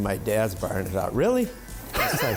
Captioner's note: laughing